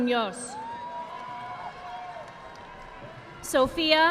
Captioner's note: audience applauding